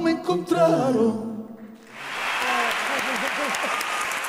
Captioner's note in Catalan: aplaudiments